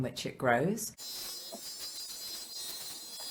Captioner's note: buzzing